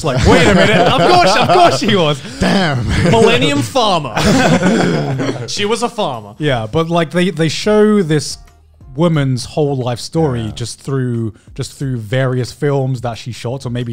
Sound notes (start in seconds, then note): 4.1 both laughs